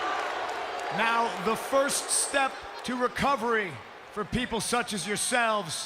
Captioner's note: applause